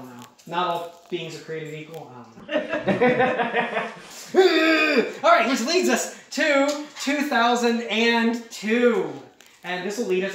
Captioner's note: chuckling